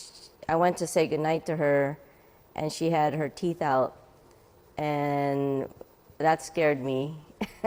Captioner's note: laughs